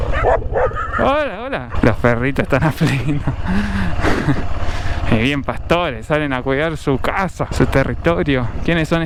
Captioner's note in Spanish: risas